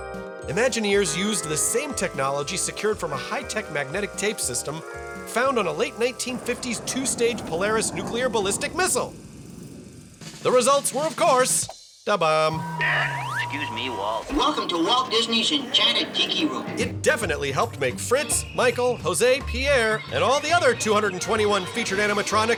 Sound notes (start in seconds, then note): 12.5 burps